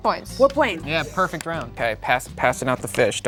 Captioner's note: softly clapping